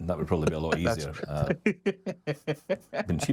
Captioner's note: laughs